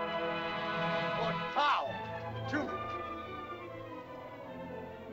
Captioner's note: dramatic music; speaking in caveman language; suspenseful music